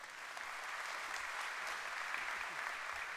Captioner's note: applause